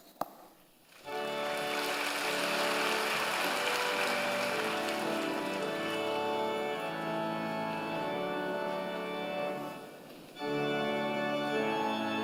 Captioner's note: applause